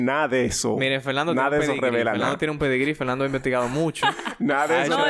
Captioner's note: laughs